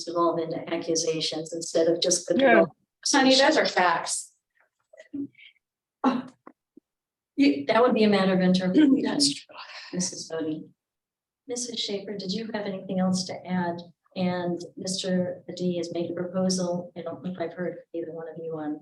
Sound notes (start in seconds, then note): 5.9 woman gasps